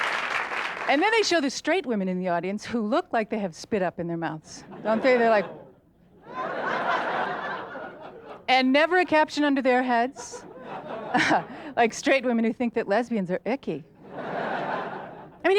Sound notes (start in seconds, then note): 0.0 audience laughs and claps; 4.6 audience laughter; 14.0 audience laughter